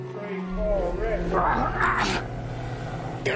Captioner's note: grunting